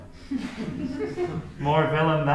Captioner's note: crowd laughing